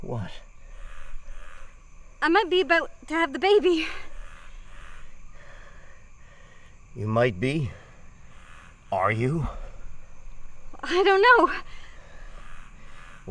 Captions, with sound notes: - What? - I'm might be about to have the baby. - (gasping) You might be? Are you? - I don't know.